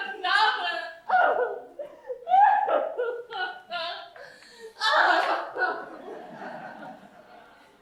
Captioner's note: katie shaw sobs